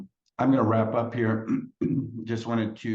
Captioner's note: groans